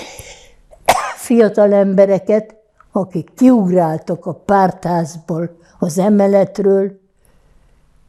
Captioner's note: coughing